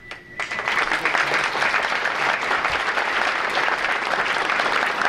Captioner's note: audience applauding